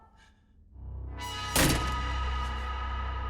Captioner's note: frightening music; slamming